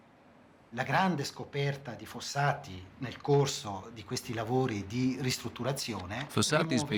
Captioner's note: speaking Italian